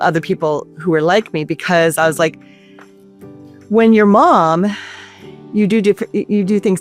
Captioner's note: sighs